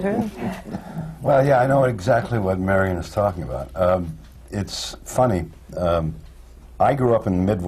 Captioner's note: laughs